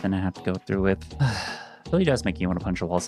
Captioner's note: sighs